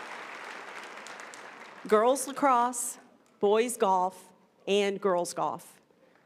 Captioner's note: applause